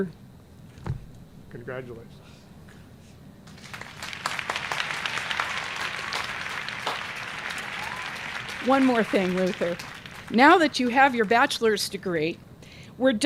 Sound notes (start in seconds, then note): 3.4 applause